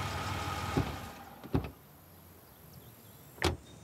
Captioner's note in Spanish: Sonido de motor